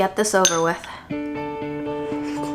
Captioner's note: spoon clinks; uplifting music; slurps